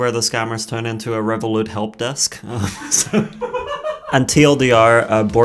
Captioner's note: laughing